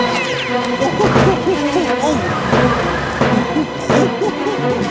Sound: monkey noises

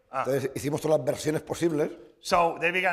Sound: speaking spanish

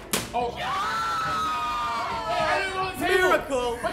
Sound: bottle whumping; whooping; all shrieking

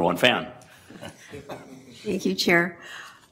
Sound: laughter

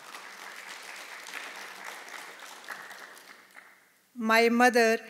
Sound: audience applauding

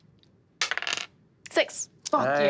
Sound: dice clatters

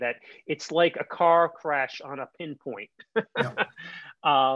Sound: chuckling

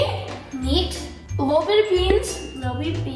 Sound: bloop noise

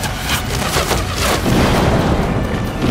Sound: explosion

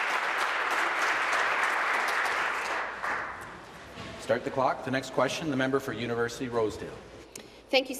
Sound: applause

